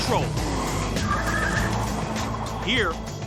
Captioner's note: tires screech